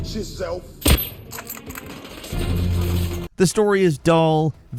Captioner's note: gun blasting